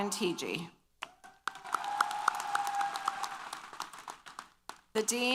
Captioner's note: applause & Cheers